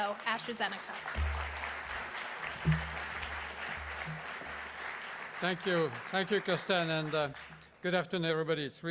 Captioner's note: applause